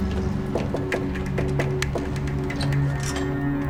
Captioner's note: knocking on door